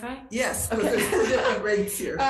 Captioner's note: laughs